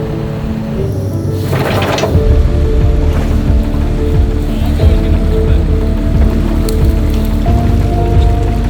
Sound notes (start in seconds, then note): 0.3 upbeat instrumental music continues; 1.3 tow truck supports clanging